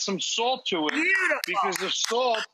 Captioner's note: clapping